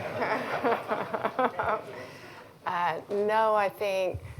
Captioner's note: laughter